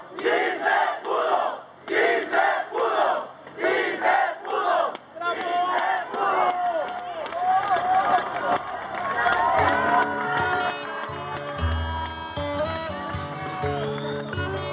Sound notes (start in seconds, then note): 0.2 crowd; 7.2 people shouting and clapping; 9.8 people shouting, clapping, and guitar music